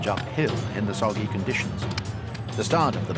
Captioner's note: weapons clanging